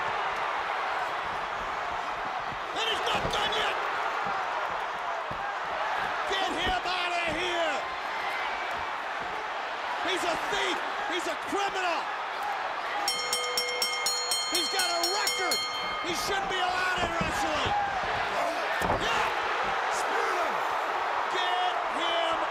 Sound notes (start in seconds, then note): 4.2 crowd chatter; 13.0 bell ringing; 20.3 crowd chatter